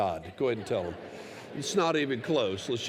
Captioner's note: laughter